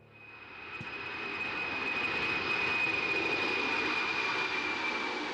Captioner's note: plane engines roaring